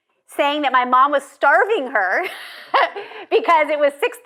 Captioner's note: laughs